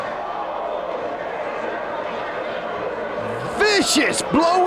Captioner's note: spectators exclaiming